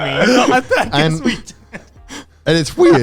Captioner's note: laughing